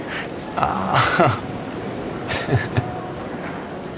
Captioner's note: chuckles